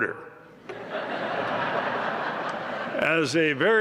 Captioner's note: laughter